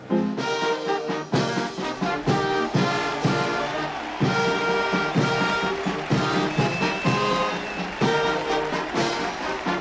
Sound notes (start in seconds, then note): 0.2 band playing; 2.5 cheers and applause